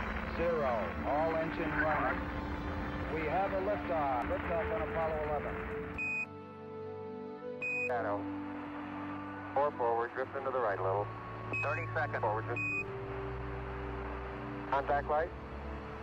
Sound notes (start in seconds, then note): 6.0 beeping sound; 9.3 garbled radio communiaction